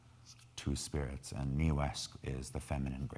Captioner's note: speaking in foreign language